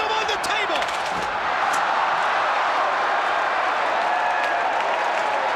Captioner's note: crowd cheering